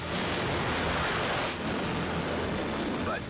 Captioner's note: air swooshes